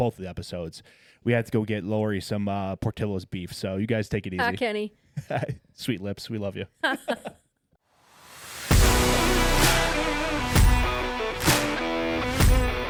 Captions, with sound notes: Both of the episodes. We had to go get Laurie some Portillo's beef. So you guys take it easy. - Thanks, Kenny. - Sweet lips, we love you. (laughing) (upbeat music) (upbeat music)